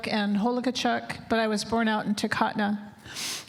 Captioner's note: speaking native language